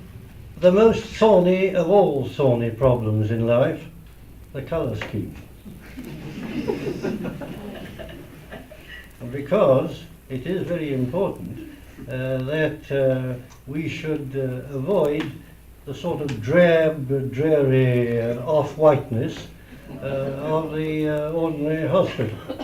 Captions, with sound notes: the most thorny of all thorny problems in life... the colour scheme. (LAUGHTER) Because it is very important that we should avoid the sort of drab, dreary and off-whiteness of the ordinary hospital.